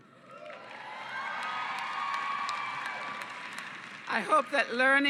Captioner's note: cheering and applause